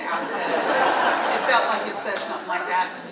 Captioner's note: audience laughing